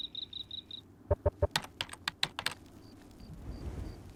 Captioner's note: clicking